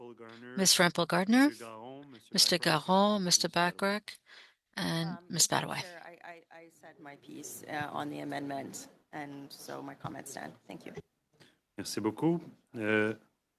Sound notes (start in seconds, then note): 5.4 speaking French